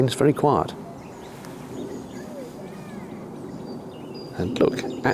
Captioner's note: distant sound of aeroplane